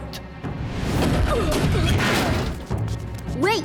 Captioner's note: grunting